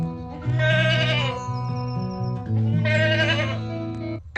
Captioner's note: guitar music; sheep bleating